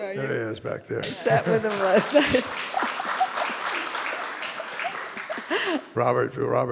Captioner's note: audience applauding